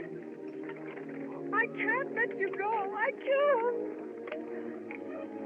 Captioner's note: crying